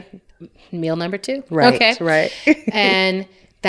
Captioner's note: laughs